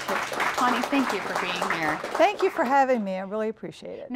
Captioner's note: applause